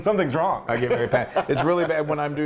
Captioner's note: laugh